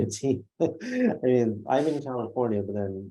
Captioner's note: laughs